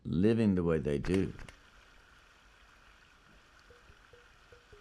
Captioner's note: water hissing